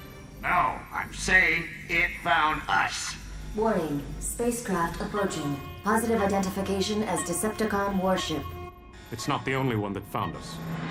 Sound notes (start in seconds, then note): 7.0 radar sounding; 9.3 alarm blaring